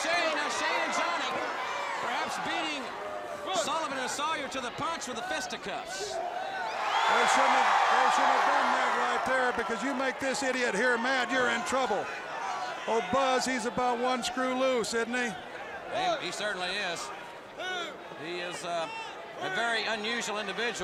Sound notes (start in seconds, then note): 6.1 crowd cheering